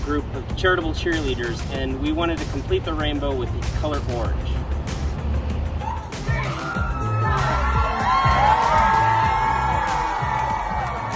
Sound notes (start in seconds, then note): 7.5 crowd cheering